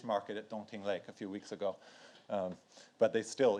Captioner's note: speaks in foreign language